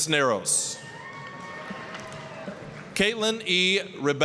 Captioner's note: applause, cheering